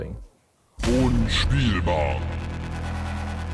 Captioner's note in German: Dröhnen